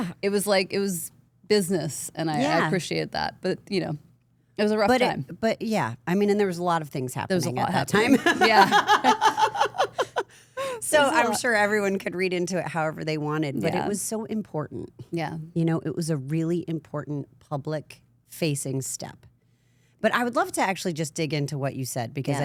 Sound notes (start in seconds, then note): 8.0 Stephanie laughing